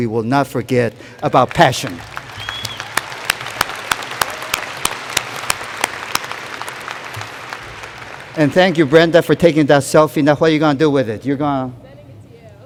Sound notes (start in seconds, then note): 5.0 applause